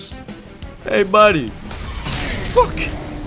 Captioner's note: shield bashes